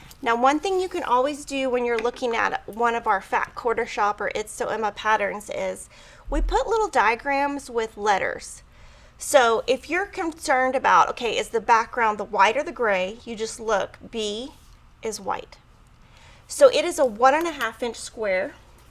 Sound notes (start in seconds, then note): none